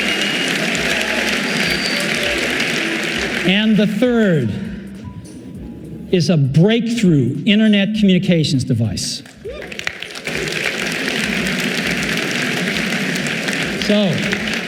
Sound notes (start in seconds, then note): 9.2 audience applauding